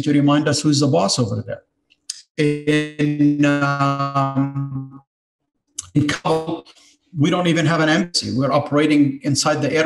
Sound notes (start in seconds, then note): 3.3 audio distortion